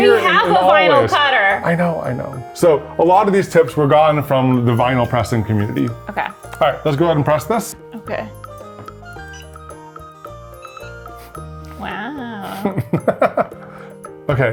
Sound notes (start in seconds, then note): 9.0 bright music; 10.8 device beeps; 12.5 laughs